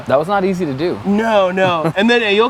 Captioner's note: laugh